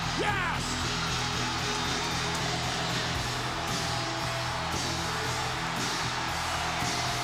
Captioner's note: crowd cheering; upbeat rock music